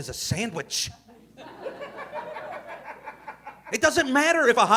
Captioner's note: audience laughing